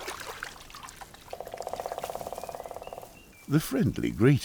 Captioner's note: croaking call